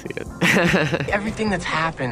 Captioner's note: Charlie laughs